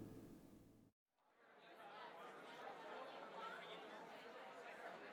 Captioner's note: sounds of people chattering in bar